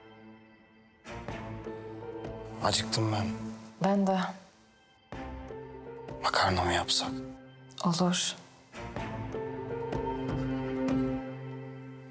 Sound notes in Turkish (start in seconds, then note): none